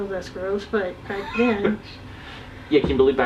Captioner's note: interviewer laughs